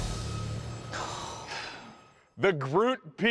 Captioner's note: sighing